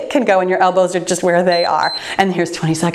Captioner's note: timer beeps